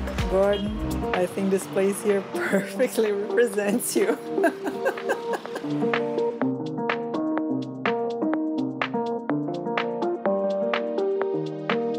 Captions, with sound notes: Gordon, I think this place here perfectly represents you. [laughs]